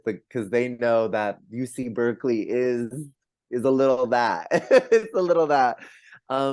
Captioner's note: laughs